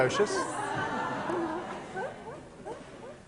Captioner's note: class laughing